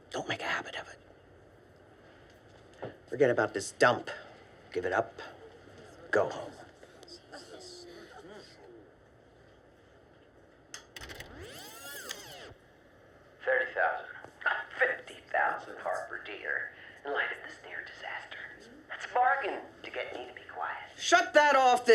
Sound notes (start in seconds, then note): 10.9 tape rewinds; 13.5 Billings over speaker